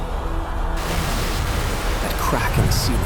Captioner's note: ceiling collapsing